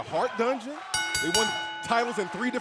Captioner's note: bell ringing